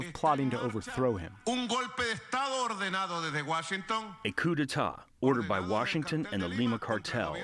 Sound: through translator

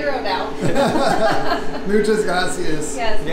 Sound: laughing

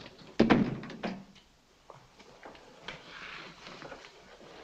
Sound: door thuds shut

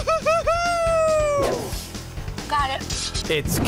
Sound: cheering

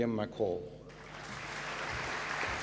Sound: applause

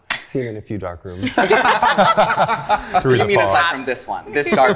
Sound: group laughing

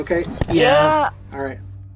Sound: in Unison

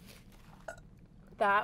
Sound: teeny burp

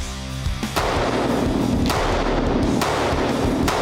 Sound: cocks gun; gunshot sound

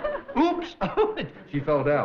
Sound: giggling

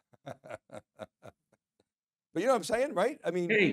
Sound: laughing

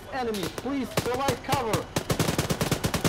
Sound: on the radio

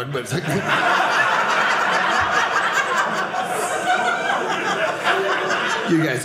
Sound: audience laughing

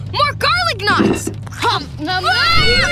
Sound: chewing

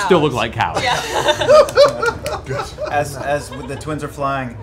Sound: laughter

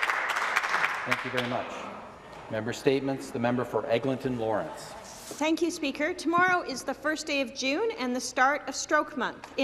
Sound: some Applause

